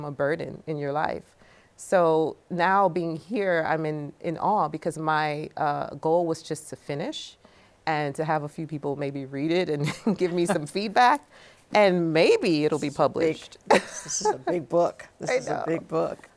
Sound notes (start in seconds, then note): 9.8 chuckles; 13.2 laughs